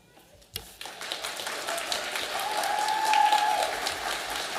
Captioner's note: audience applauding